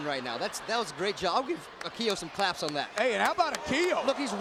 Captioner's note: applause